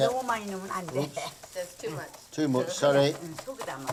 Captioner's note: speaking Korean